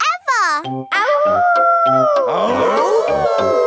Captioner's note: all howling; howling